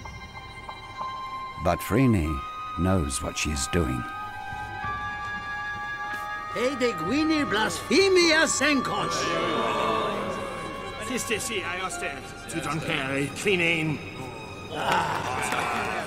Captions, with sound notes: But Phryne knows what she's doing. (men speaking in Greek) (people groaning)